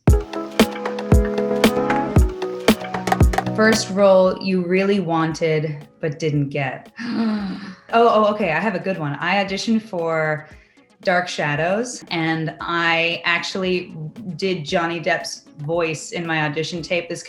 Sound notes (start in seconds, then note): 0.0 upbeat music; 7.0 gasps